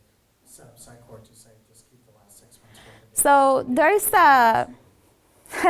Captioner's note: man speaking faintly off microphone; all laughs